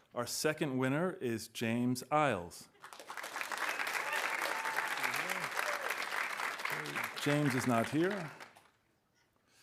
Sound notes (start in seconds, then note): 2.8 audience applauding; 3.2 audience cheering